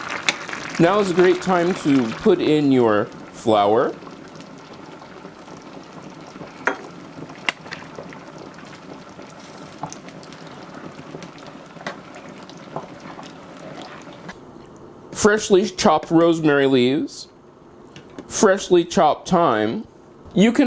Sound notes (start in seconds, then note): 5.6 frying sounds